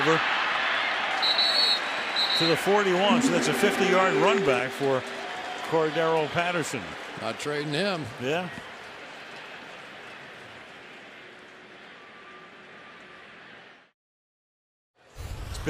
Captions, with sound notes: Still not over. [whistle blows] To the 41. So that's a 50-yard run back for Cordarrelle Patterson. Not trading him. Yeah.